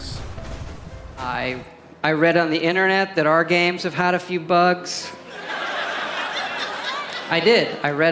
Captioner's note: audience laughter